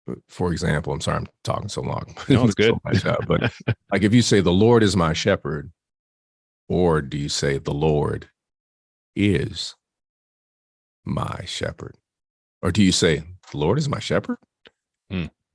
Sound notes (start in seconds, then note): 2.1 laughs